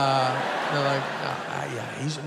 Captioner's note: audience laughing